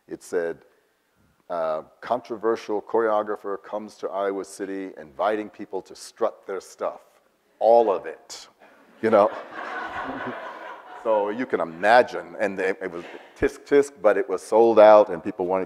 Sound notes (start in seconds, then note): 9.0 audience laughs